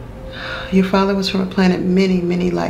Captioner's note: sighs